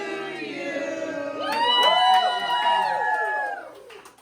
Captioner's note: cheering